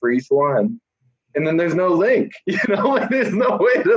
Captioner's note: laughs